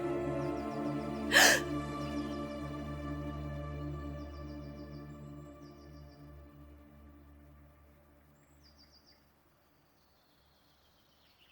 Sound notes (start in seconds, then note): 1.3 Tiffany gasps; 8.3 birds chirping